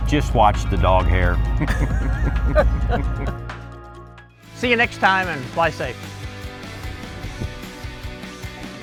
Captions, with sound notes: - Just watch the dog hair. (group laughing) - See you next time and fly safe. (upbeat music)